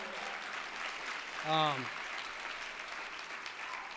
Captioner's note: applause